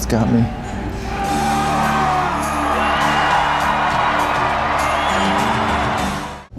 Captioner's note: crowd cheering